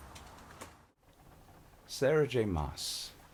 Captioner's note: rain taps on the roof